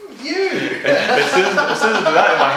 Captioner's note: belly Laugh